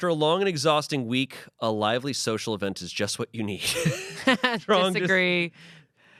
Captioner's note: laughs